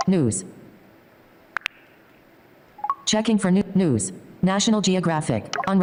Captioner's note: automated Voice